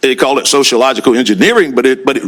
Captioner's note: none